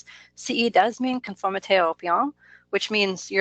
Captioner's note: speaks in foreign language